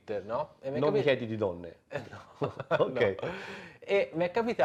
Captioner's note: laughter